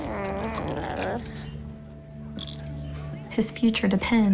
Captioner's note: whines and groans